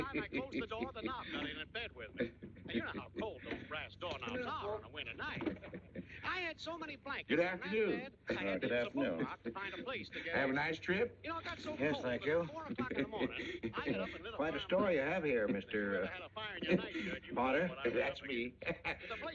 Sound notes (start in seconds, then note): 14.9 radio; 15.6 śmiech mężczyzny